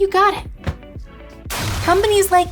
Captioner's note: phone booms